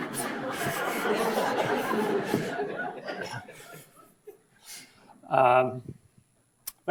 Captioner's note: audience laughs; laughs